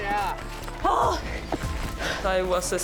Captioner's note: panting and groans